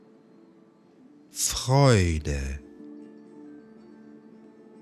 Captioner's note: german